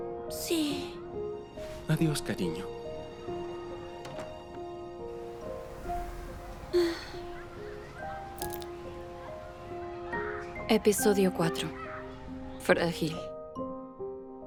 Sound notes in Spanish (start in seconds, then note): 6.7 Suspiro de añoranza; 8.4 El vidrio se rompe